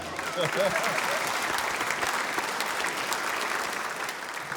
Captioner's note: applause